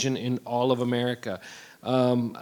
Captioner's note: none